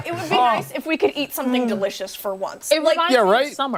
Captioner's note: laughter